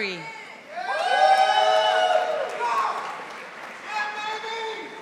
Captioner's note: audience applauding